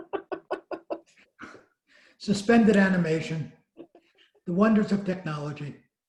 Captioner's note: laughing